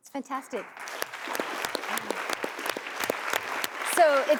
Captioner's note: applause